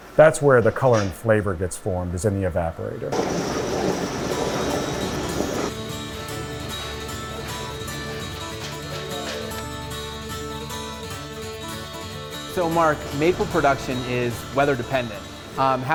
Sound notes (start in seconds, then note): 3.1 water burbles; 3.6 bright music